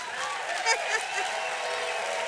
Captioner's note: applause; laughs